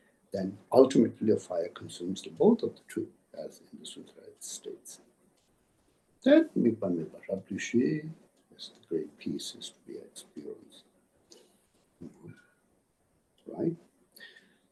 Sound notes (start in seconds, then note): 7.8 tibetan